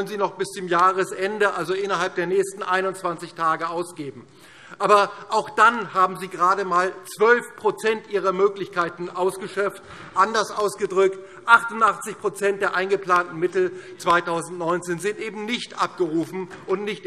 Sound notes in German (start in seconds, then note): none